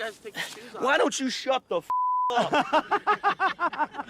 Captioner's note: beep